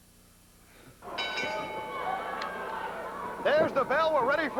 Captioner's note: bell ringing